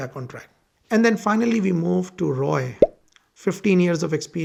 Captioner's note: popping